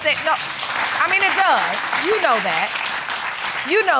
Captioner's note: audience applauding